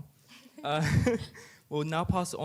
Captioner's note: chuckles